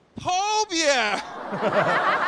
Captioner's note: hunan accent